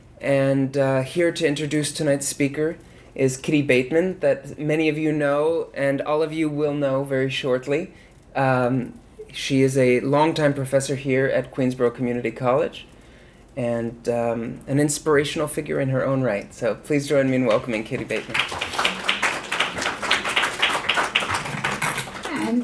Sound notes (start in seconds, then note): 19.0 audience applauds